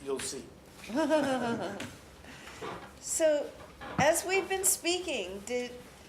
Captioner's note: laughs